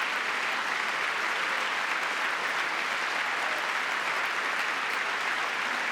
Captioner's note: applause